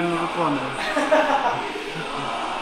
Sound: laughter

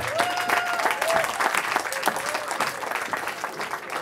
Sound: cheering

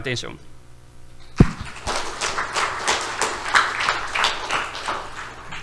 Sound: audience applauds

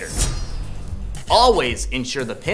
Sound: blade slicing

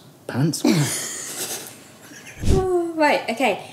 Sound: they snicker

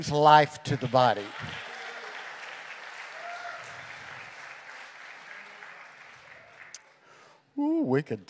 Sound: congregation cheering

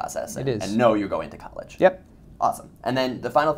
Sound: voiceover

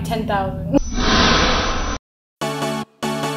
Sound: distorted audio

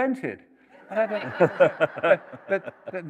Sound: laughter

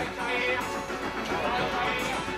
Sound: shouts of "chai, chai!"

